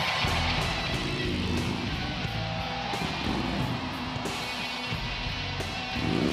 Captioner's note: motorcycle engine humming